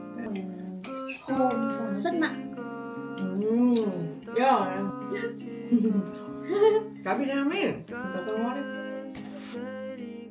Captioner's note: chattering about food